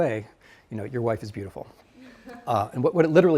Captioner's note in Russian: студенты смеются